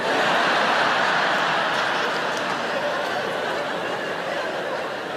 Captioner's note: audience laugh